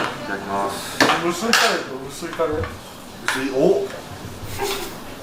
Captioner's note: laughs